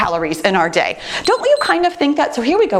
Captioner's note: timer beeps